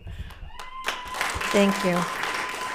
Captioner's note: applauds